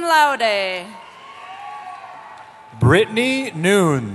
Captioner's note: cheering